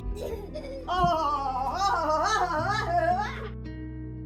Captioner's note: gaslighting chuckles